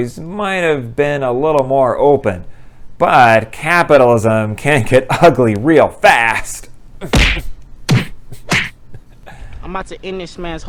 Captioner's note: punching sounds